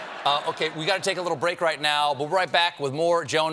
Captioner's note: laughter